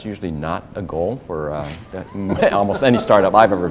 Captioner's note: laughter